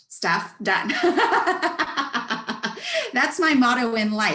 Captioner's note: laughs